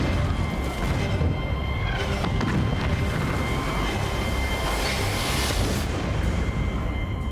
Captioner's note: explosions